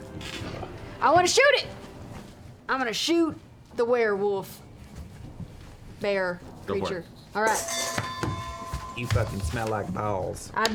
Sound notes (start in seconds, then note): none